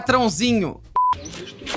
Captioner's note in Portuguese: som de bipe